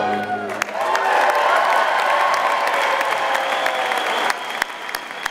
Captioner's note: audience applauding